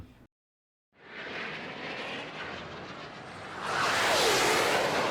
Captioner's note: whoosh